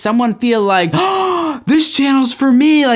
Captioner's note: gasping